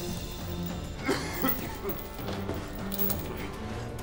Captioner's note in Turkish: Öksürme sesi